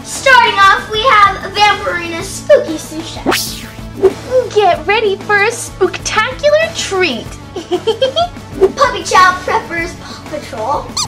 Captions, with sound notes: Starting off we have Vamporina spooky sous chef. - Get ready for a spooktacular treat. (giggles) - Puppy child preppers, paw patrol.